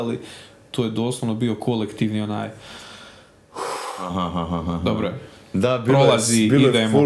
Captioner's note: exhale